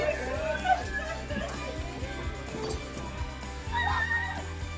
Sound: bystander crying

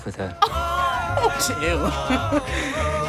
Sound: laughing

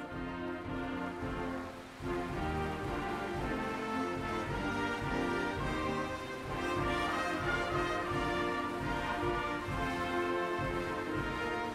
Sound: applause

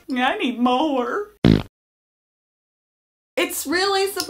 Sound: fart noise

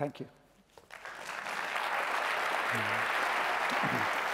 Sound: applause

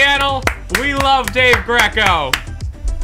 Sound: clap; claps

